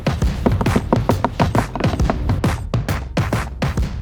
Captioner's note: Rocky knocking